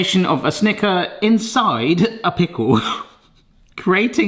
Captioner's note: chuckles